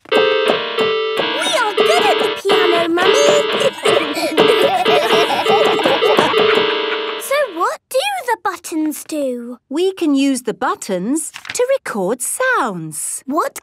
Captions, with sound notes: (dissonant music) - We are good at the piano, Mummy! (laughter) So what do the buttons do? - We can use the buttons to record sounds.